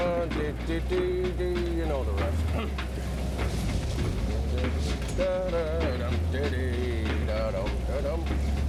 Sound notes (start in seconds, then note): 4.3 humming happily